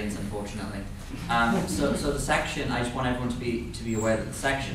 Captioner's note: laughter